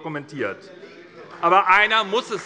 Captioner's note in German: Beifall bei der SPD